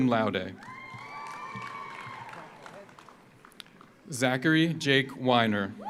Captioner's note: audience cheers; audience applauds